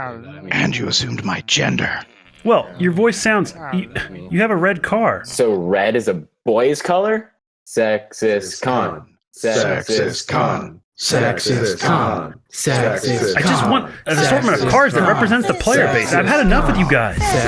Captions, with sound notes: And you assumed my gender. Well, your voice sounds ... you have a red car. So red is a boy's color? [Chants] Sexist Khan. Sexist Khan. Sexist Khan. Sexist Khan. I just wanted cars that represents the playerbase. I've had enough of you guys!